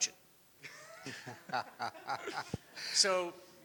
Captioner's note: people laughing